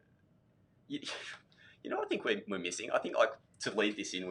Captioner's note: sighs